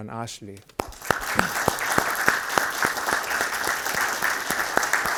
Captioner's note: everybody applauds